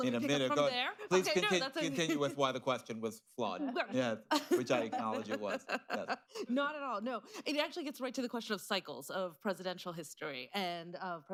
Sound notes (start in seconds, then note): 4.3 laughter; 4.4 laughs